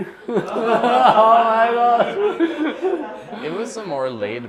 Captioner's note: laughter